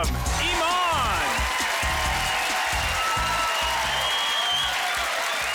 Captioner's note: crowd cheering